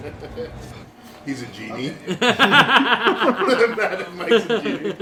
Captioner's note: laughter; laughter